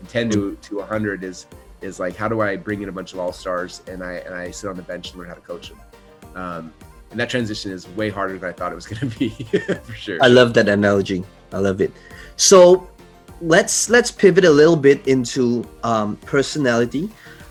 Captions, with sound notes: And 10 to 100 is how do I bring in a bunch of all-stars and I sit on the bench and learn how to coach them? And that transition is way harder than I thought it was gonna be (laughs) for sure. - I love that analogy, I love it. So let's pivot a little bit into personality.